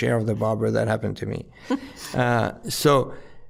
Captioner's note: giggling